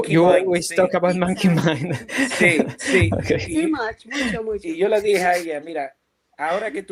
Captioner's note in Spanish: risas